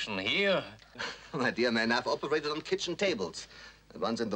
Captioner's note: chuckles